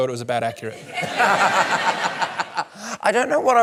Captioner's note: laughter